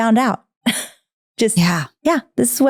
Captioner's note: laughing